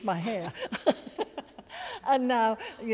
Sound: laughter

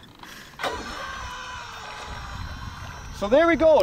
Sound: motor buzzing; water lapping

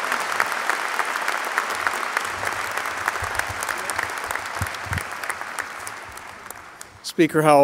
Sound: applause

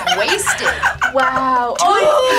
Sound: React laughs

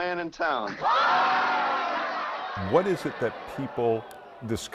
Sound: guests laugh

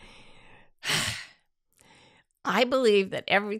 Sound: exhales

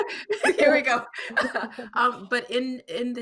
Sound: laughing

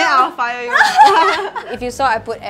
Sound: laughs

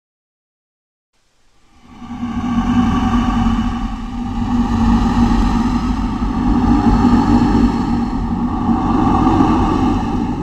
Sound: sound of ghostly breathing

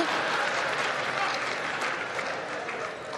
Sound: laughter

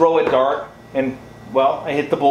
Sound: thuds

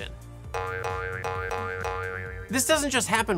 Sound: springy Sound Effects

